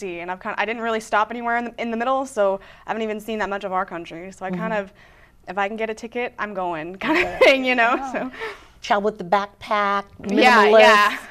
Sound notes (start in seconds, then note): 7.0 laughing